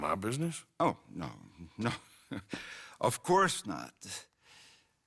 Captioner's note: chuckles